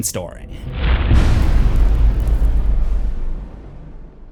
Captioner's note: impact